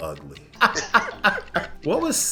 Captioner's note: laughs